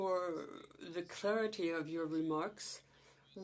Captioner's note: speaking Indigenous Language